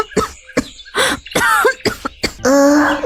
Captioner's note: coughs